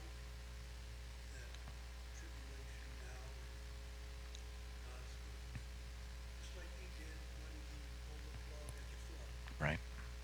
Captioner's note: man speaking off mic